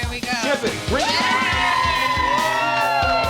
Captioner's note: cheering